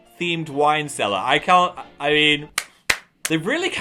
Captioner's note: applauding